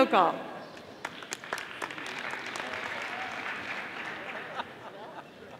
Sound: audience applauding

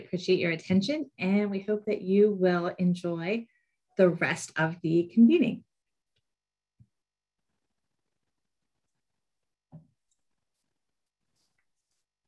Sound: silence

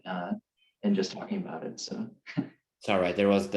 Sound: chuckles

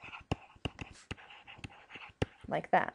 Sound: scribbling

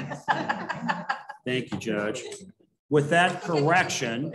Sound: laughter

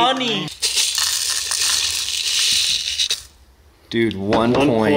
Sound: gold clanking

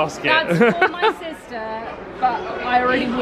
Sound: laughing

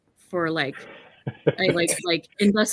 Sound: laughs

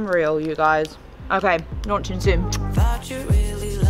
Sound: lips smack

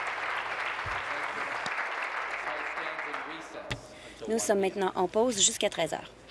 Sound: applause

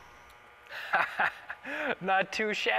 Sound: laughing

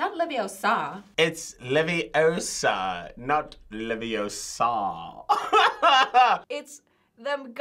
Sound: laughs

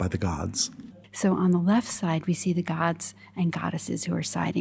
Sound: voiceover

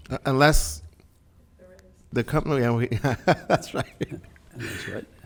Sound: laughs

